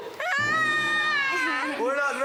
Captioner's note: screams